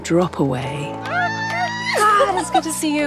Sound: girls yell excitedly

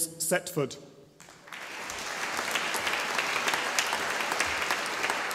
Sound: audience applauding

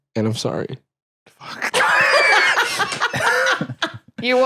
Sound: laughs

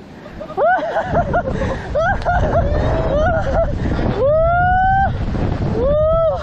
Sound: laugh!!!

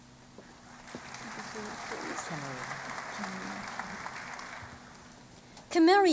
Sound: applause

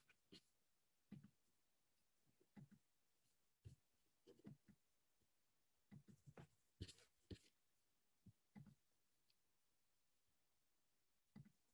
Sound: silence

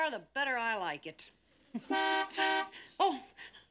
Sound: car horn beeps

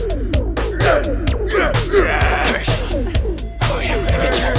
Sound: John groans

